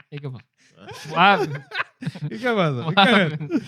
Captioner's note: non-english Speech